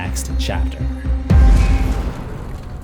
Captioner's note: impact